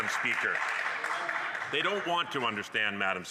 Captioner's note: some Applause